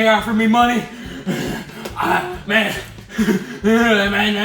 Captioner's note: heavy breathing